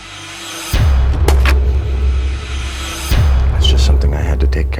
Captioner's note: gun fires